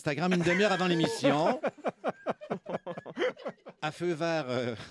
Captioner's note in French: rires